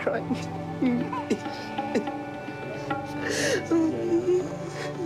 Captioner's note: sobbing